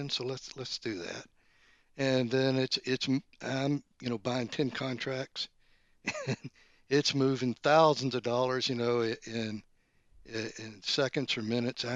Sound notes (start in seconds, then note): 6.0 laughs